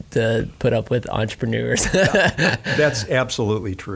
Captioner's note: laughing